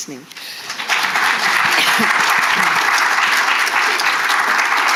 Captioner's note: attendees applauding